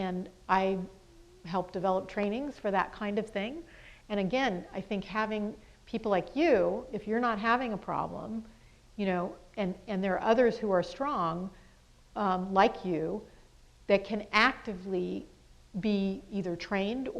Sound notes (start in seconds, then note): none